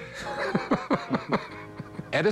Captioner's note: laughter